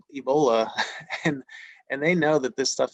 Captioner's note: chuckles